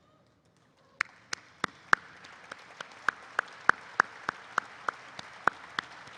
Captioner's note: applause erupts